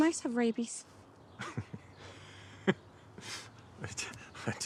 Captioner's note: Abe and Isaac laugh